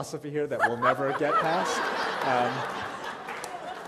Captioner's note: laughter